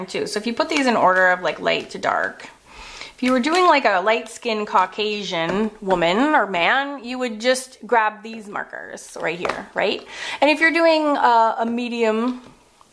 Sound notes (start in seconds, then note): none